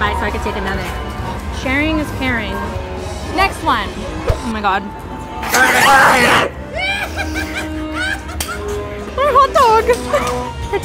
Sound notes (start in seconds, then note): 6.7 insane gigging